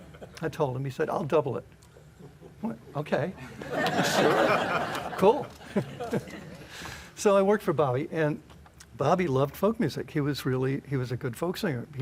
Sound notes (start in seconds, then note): 5.6 laughter